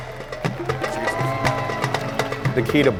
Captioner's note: audience cheering and applauding; thrilling music